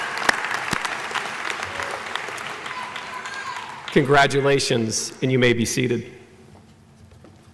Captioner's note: applause